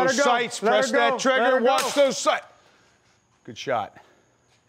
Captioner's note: gunshot